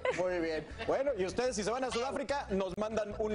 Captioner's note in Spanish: risas